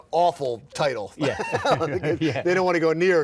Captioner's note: both laughing